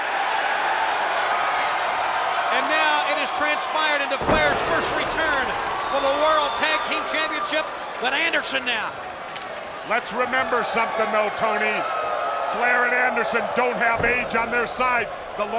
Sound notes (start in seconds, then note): 0.2 crowd cheering; 9.0 hands thudding